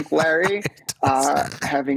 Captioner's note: laughs